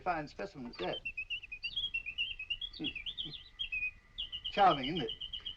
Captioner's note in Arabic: تغريدة طائر